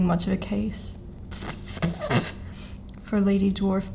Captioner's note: sputtering around mustache